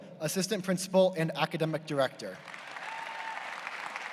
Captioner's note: applause